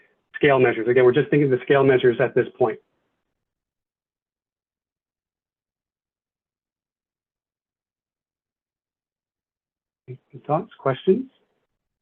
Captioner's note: pause